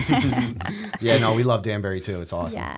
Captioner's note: chuckle